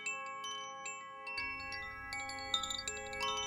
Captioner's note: windchimes